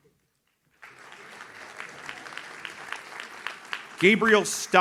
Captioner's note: audience claps